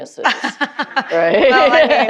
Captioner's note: laughing